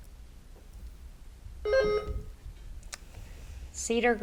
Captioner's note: bell rings